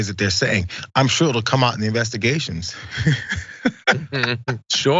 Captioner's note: laugh